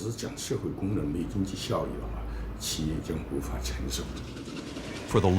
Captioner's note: speaking in foreign language